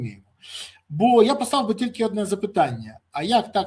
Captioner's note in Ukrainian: сопіння